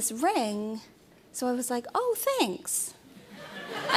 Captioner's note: laughter